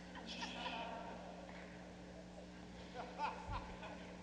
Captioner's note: laughing